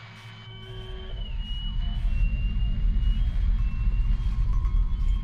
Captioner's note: whistle